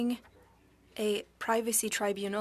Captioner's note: speaking French